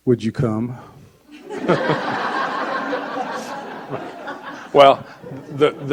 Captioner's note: audience laughing